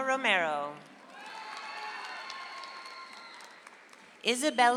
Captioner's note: audience applauds